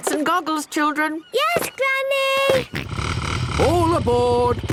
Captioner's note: snort